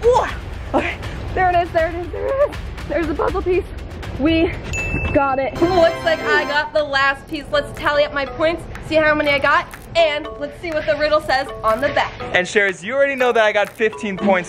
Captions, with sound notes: Oowah, okay, there it is, there it is, there it is. There's the puzzle piece. We got it. (dings) (fanfare) Ooh, looks like I got the last piece! Let's tally up my points, see how many I got. And let's see what the riddle says on the back. - And Sharers, you already know that I got 15 points,